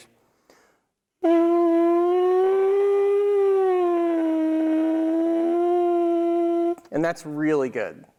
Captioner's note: makes a sound like a siren